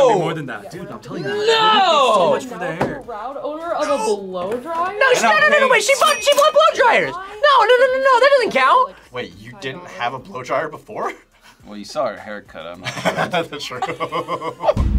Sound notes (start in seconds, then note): 11.3 laughs; 12.8 laughs